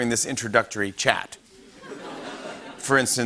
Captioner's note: laughter